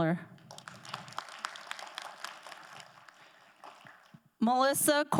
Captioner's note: crowd applauding